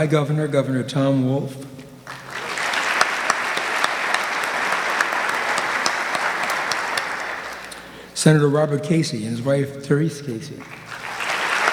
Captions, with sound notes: my governor, Governor Tom Wolf, (audience clapping) Senator Robert Casey and his wife Terese Casey,